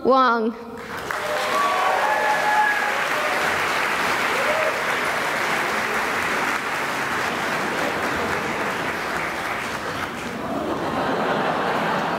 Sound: cheering and applause

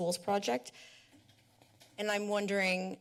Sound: pause

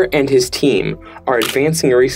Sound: camera click sound effect

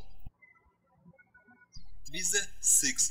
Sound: birds chirping

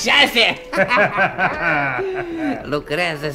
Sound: they both laugh

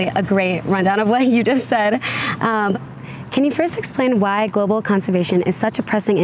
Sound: laughs

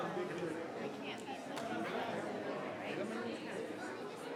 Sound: people chattering

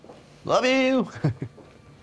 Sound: chuckles

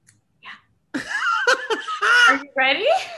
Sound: laughter

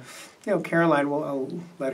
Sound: none

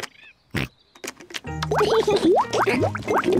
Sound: oinks; laughs

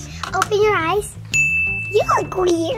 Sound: tings

